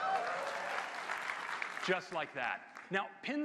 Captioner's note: applause